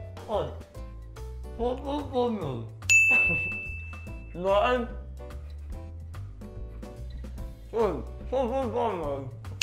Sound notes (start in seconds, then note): 2.9 ding